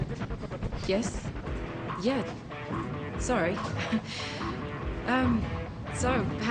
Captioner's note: chuckles